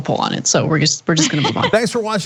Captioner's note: laugh